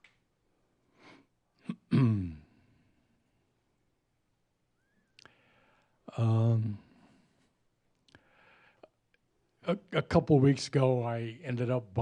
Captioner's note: he pauses